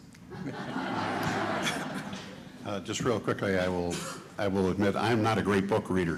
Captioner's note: laughter